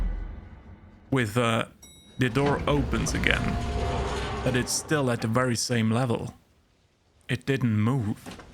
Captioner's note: ding